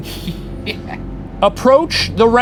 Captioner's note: laughs